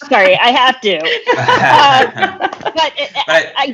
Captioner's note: all laughing